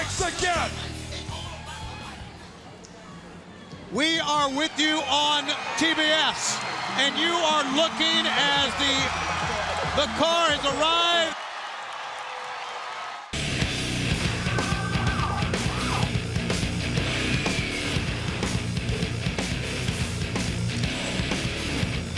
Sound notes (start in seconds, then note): 14.0 crowd cheering